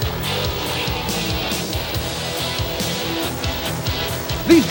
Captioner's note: engines roar